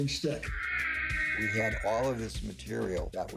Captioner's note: siren wailing